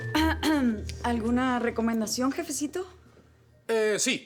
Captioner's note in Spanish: Carraspea